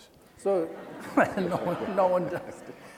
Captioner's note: laughing